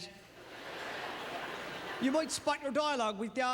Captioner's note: audience laughter